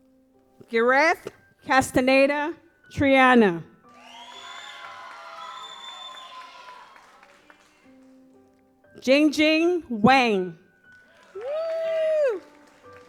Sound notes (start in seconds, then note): 3.9 audience applauds